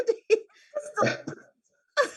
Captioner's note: laughs